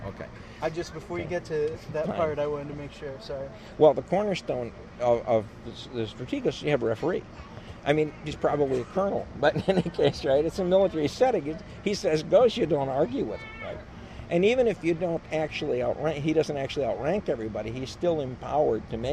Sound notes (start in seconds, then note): 6.3 laughs